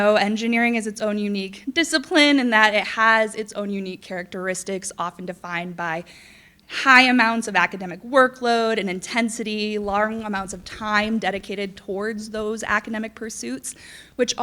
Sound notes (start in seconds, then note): none